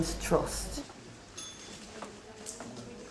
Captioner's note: bell rings